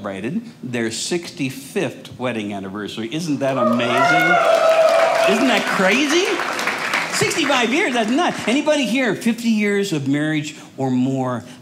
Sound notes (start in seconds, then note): 3.4 audience cheers